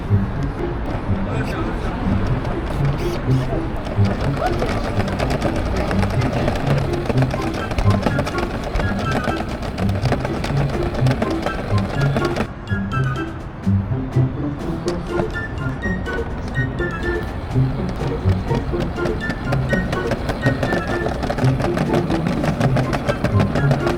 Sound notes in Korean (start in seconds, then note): 18.5 탈탈